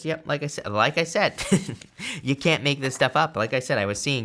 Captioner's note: chuckles